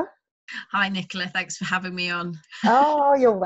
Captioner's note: laughs